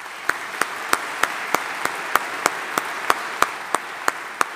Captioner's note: audience applauding